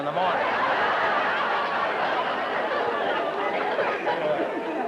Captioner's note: laughter